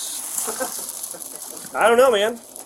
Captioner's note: laughs